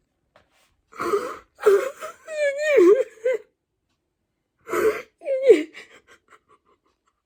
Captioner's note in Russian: плач